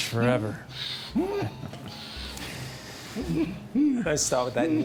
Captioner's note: groaning